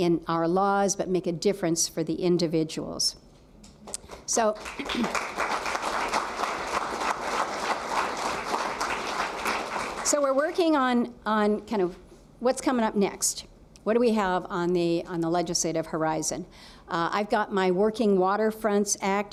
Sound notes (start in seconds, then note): 8.3 applause